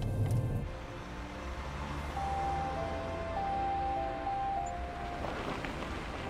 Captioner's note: gentle music continues; traffic whooshing; gravel crunching